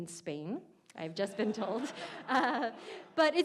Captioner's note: audience laughs